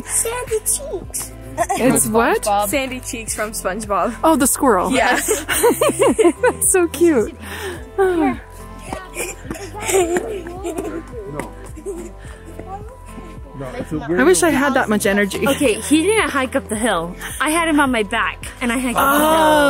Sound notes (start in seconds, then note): 5.0 laughs; 9.0 laughs and pants